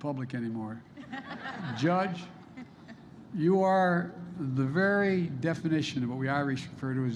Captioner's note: laughter